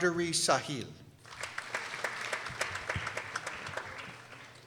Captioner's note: people applauding